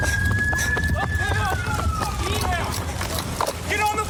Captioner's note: shouting